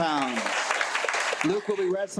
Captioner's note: attendees applaud